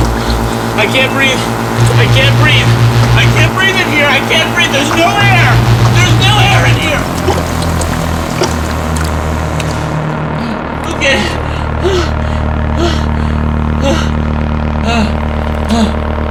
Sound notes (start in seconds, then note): 10.3 gasping